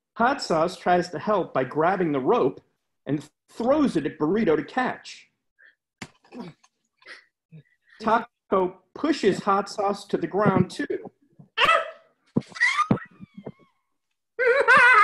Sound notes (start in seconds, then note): 5.9 grunting; 11.6 high pitched grunt; 11.6 screaming; 14.4 maniacal laughing